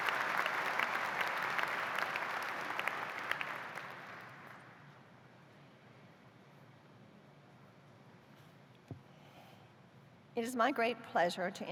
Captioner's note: applause